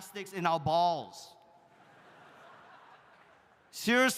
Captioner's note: audience laughs